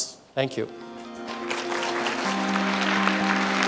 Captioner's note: applause